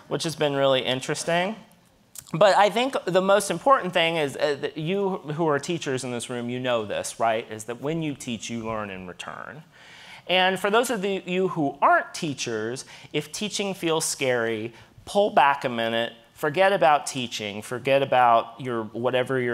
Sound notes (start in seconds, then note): none